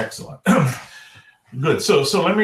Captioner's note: clears throat